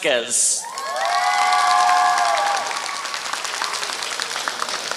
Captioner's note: applause